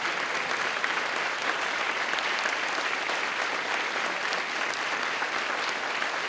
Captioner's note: attendees continue applauding